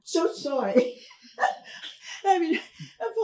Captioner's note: laughs